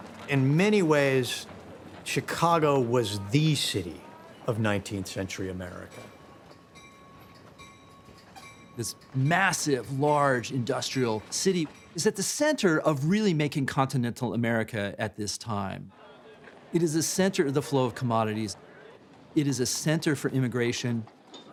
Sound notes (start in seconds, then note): 6.5 bell ringing